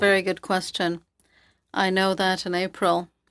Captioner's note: speaking FRENCH